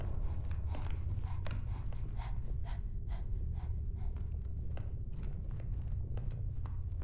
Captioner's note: panting